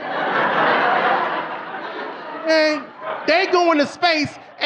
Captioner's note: audience laughing